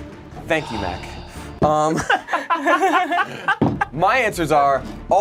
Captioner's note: group laughs